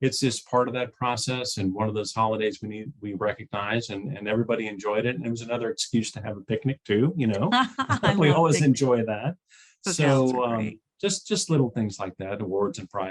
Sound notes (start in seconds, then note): 7.6 chuckling